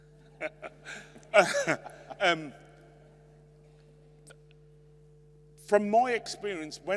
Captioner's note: laughs